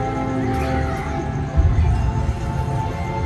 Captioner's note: none